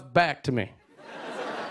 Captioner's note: laughter